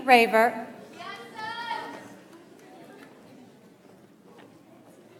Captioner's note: audience applauds